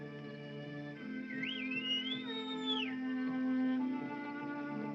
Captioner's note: bird Whistles